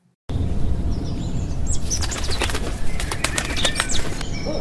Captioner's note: birds chirping